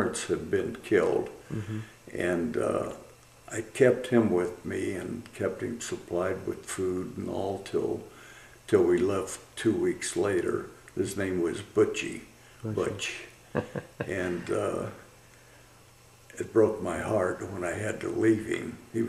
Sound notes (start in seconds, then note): 13.5 laughter